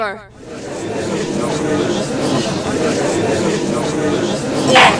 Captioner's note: gallery chattering